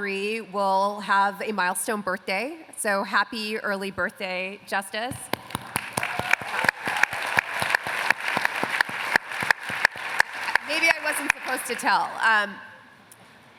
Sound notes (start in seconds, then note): 5.2 applause